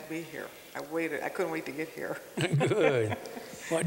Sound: laughter

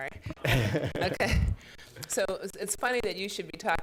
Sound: laughs

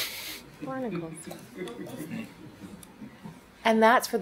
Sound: all chuckle

